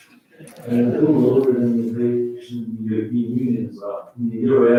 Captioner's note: faintly speaking